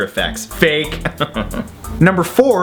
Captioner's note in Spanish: risa entre dientes